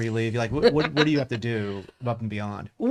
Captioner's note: laughs